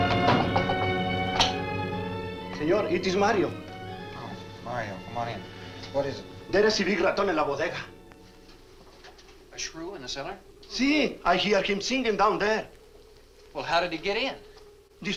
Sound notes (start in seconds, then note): 0.1 knocks on door; 6.9 Mario speaks Spanish